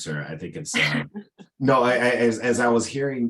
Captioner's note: laughs